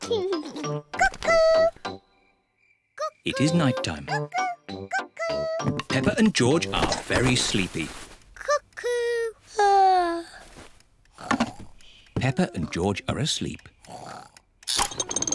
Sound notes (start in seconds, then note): 0.0 laughs; 11.1 yawns